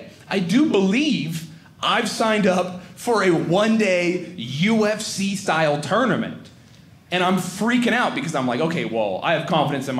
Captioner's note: none